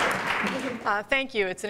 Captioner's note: applause